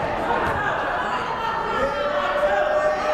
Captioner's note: yelling